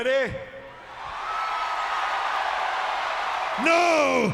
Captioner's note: audience cheering